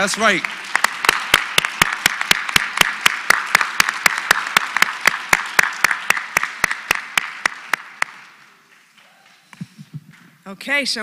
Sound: applause

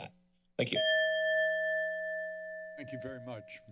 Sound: bell rings

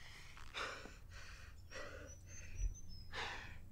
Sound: Leo Breathes Heavily

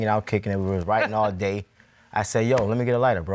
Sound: scoffs

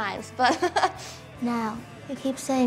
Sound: laughs

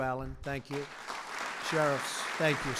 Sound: applause

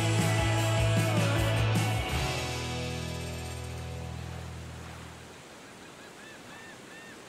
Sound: lively music ending; birds cawing

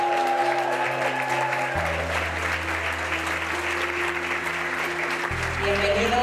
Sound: people cheer and clap hands

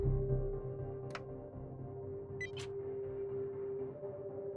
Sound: beeping

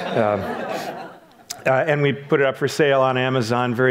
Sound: audience laughs

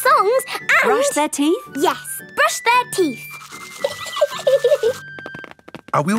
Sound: giggling

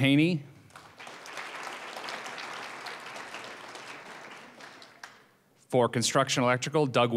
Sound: applause

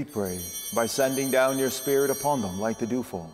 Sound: bell ringing

